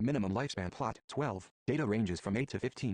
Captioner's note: voiceover